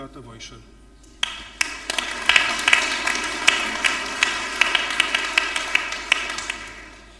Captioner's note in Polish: oklaski